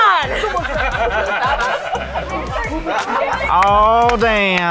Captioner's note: yelling with bravado; general laughter; claps